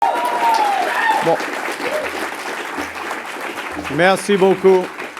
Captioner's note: applause